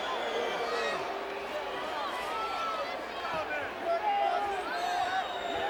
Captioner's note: crowd chattering; crowd chattering continues